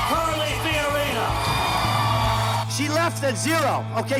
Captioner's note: cheering